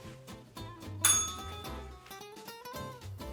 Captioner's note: bell rings